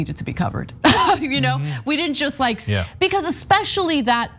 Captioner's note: laugh